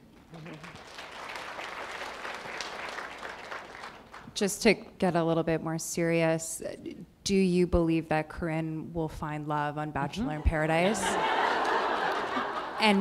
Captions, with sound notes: You're welcome. [applause] Just take that a little bit more serious. Do you believe that Karen will find love on Bachelor In Paradise?